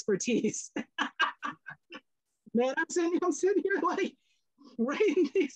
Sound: laughs

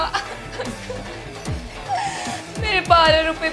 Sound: crying

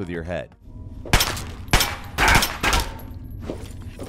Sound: gun fires

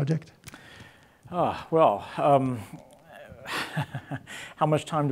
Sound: laughs; audience laughing

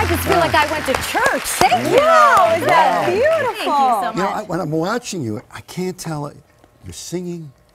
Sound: applause

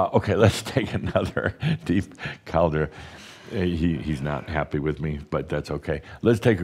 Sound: giggles; Adamus chuckles

